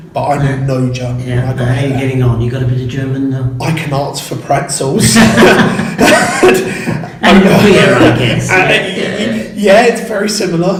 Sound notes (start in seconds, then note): 5.0 laughs